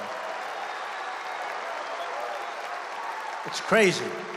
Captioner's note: applause